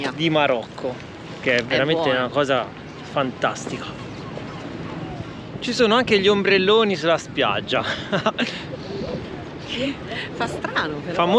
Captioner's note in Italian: risate